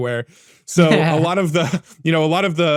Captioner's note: laughing